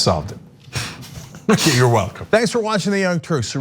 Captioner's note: laugh